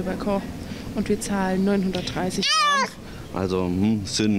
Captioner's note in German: schreit auf